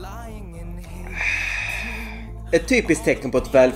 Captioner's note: champagne socialist sigh